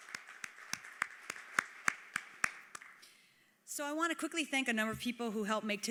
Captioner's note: applause